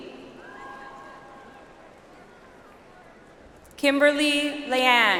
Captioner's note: audience applauds